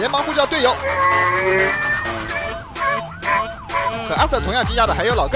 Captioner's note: static and radio chatter